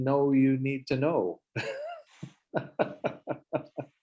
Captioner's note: laughs